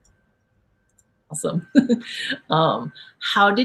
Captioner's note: laughs